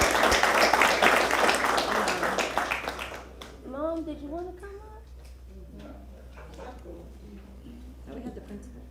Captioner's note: applause